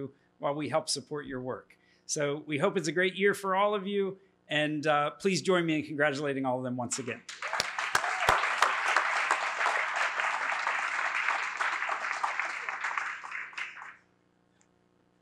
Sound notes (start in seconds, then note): 7.2 applause